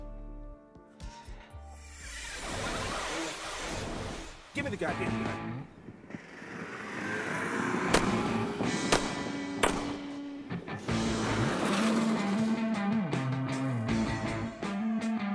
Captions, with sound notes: - Give me the goddamn gun. (gun firing) (upbeat rock music)